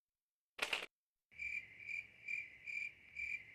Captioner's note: crickets chirping